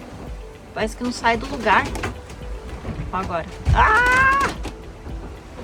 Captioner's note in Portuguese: grito